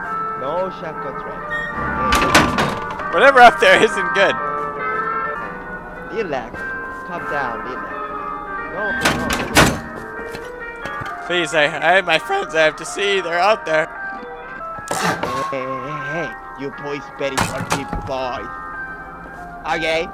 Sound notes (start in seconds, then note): 8.9 door clangs